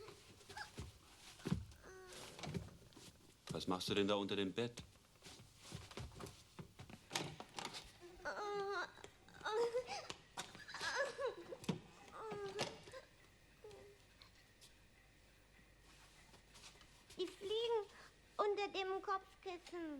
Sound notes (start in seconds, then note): 0.0 speaking german; 8.0 child crying; 16.9 speaking german